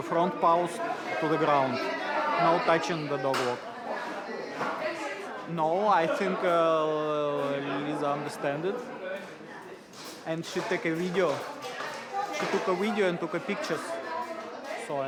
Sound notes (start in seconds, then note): none